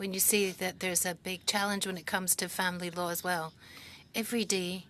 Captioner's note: speaking French